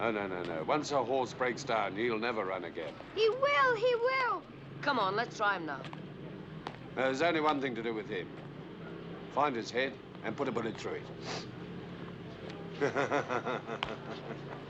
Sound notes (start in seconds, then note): 11.1 sniffs; 12.6 laughing